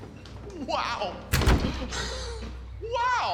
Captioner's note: door closed